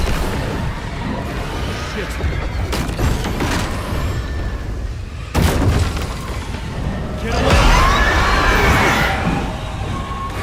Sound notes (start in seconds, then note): 0.0 gunshots; 4.7 gunshots; 7.2 screaming